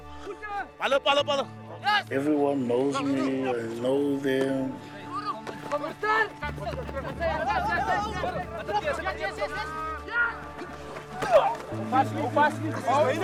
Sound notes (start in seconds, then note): 0.2 shouting in afrikaans; 4.8 shouting in afrikaans